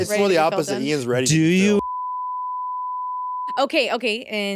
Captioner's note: beep